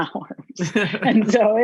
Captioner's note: both laughing